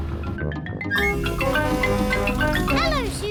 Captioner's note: horn blares